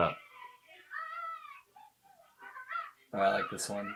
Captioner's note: child exclaims